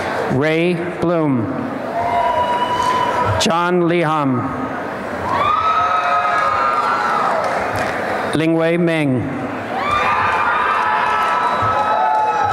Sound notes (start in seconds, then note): 5.3 applause and cheering; 9.8 applause and cheering